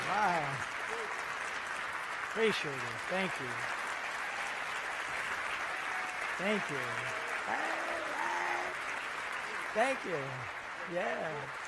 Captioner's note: applause